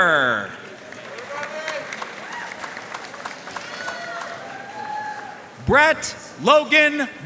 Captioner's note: audience cheering and applauding